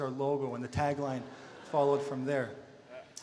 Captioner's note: audience laughter